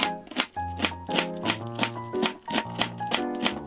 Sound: the sound of cutting cabbage

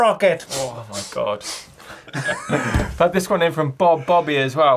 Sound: hisses

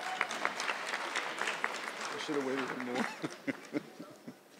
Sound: audience clapping

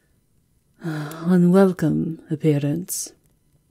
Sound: sighing in dismay

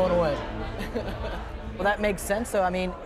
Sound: chuckling

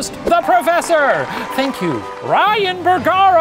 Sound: audience applauding

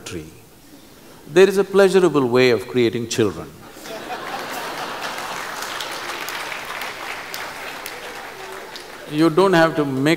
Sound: laughter/Applause

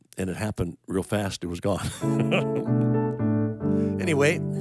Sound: laughing

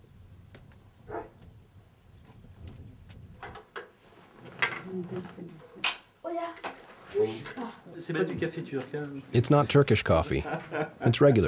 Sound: laughing

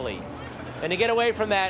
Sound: audience laughter

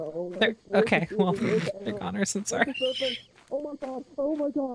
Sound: laughs

